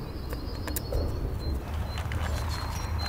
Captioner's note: birds chirping